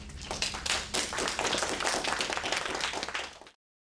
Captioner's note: audience applauding